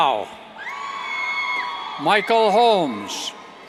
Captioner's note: cheers